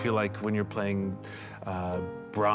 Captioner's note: none